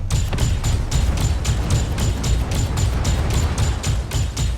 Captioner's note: missiles fire